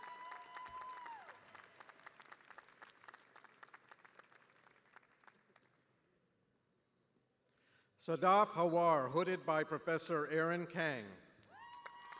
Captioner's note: cheers and applause